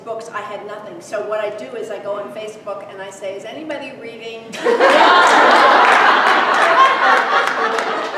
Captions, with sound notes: By the time I realized I was going to keep writing these books, I had nothing. So what I do is I go on Facebook, and I say, "Is anybody reading..." (laughter from audience)